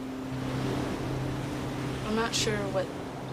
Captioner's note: waves crashing